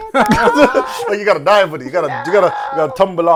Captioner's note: laughter